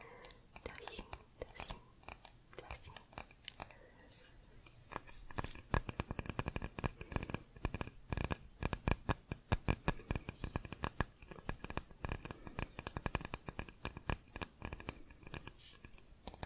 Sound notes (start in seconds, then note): 3.8 tapping on stone